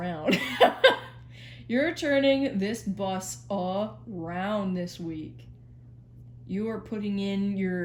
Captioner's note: laughs